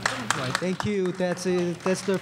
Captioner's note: applause